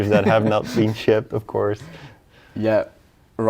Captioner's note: laughing